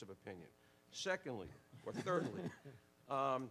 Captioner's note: laughs